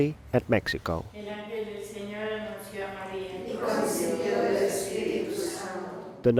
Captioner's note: speaking foreign language